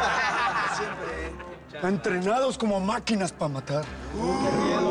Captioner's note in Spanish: Carcajadas